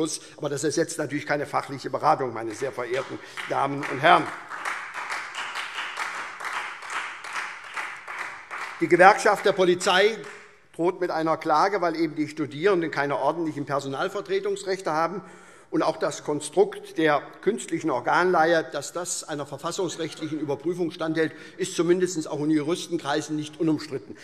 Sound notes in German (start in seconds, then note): 4.2 Beifall SPD, Freie Demokraten und DIE LINKE